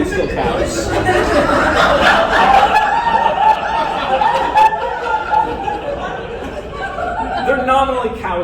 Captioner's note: laughter